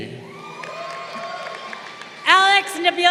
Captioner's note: crowd cheering